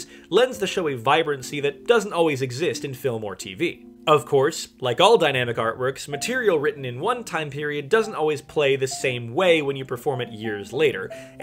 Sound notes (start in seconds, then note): none